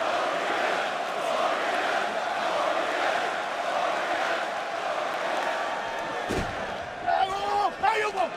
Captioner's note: crowd cheering